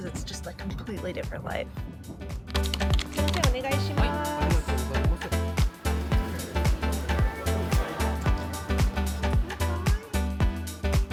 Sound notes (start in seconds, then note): 3.4 speaking Japanese; 5.8 upbeat music continues